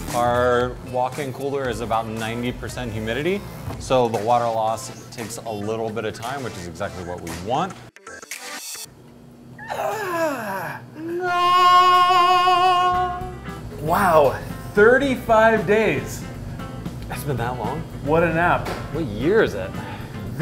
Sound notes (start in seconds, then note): 11.0 making stretching noises; 11.1 singing